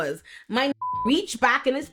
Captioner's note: beep